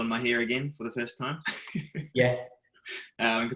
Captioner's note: laughing